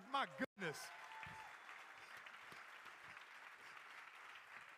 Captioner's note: crowd applauding